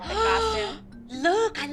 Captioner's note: gasp